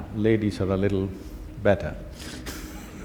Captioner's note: laughter